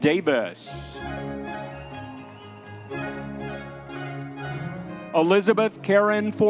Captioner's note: audience members cheering